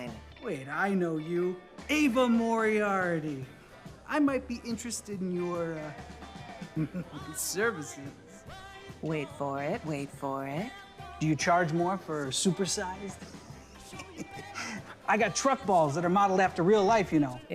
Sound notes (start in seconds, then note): 6.6 Hubert chuckles; 13.3 Hubert laughing